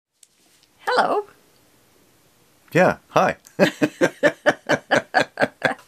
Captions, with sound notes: Hello. -Yeah, hi. [laugh]